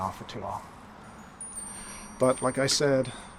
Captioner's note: bells chiming